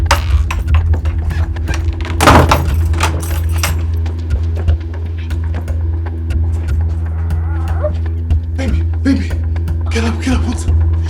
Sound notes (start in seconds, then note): 1.6 locks door